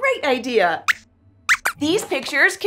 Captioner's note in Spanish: Squeaks chirría